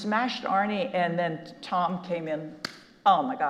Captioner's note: claps